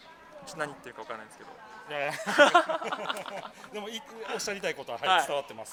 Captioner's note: laughs